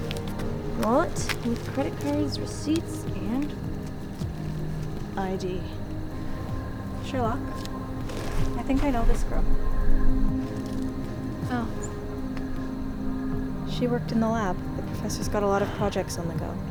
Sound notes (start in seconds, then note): none